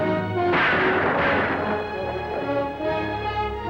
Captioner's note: dramatic orchestral music; gun fires